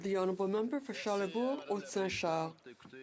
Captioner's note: speaking French